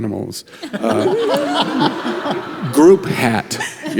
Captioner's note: group laughs